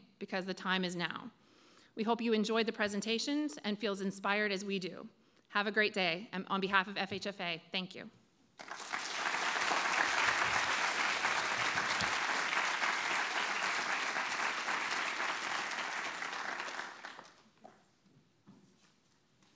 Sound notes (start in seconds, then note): 8.5 audience clapping